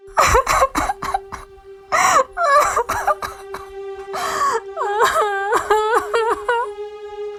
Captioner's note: crying